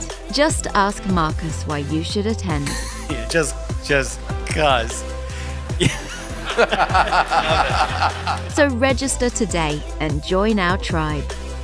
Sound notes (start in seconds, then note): 5.8 laughter